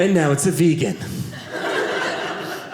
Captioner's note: audience laughing